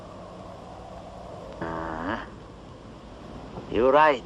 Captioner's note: grunts